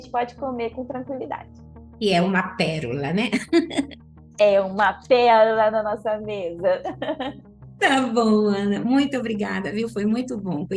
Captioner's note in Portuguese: risos